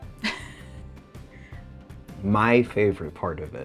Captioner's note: chuckles